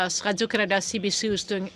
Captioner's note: speaking french